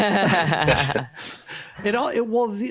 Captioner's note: laughter